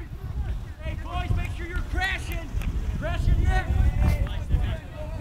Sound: players talking and yelling

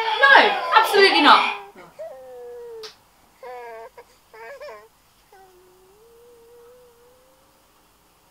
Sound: crying suddenly stops, child starts cooing

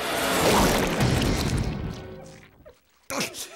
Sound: thudding

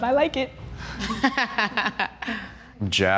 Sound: laughs

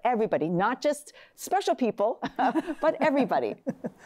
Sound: laughs

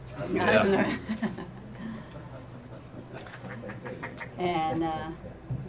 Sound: laughs

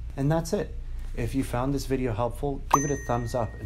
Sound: bell ringing

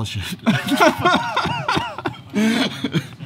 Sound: laughs

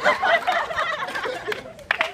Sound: laughter and applause

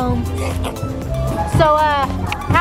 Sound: tongue slurping

